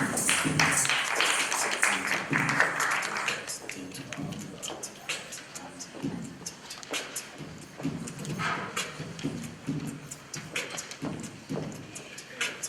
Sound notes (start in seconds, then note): 0.0 applause